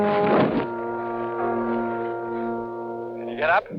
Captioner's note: thudding